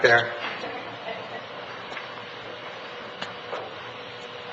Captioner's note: laughing